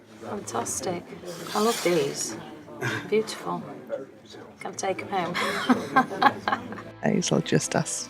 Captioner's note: laughs